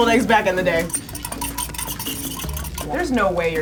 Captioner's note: whisking